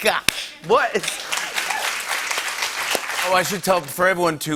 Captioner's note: cheers and applause